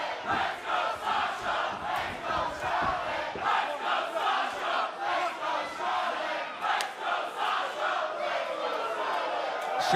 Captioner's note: fans chanting